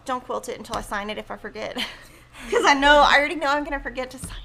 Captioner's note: laughs